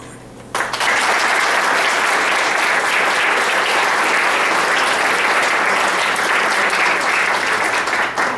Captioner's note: applause